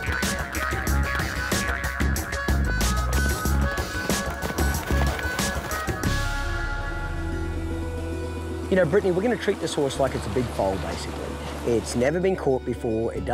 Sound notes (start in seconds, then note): 0.2 springing; 2.8 galloping; 7.1 guitar music